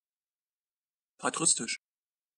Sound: fast Pronunciation

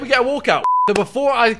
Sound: beep

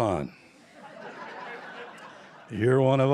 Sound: laughter

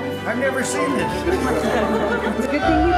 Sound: background chatter

